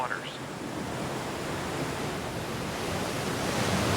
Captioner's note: waves crashing